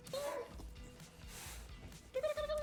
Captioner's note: clothes rustling